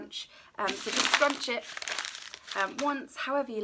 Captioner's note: paper crinkling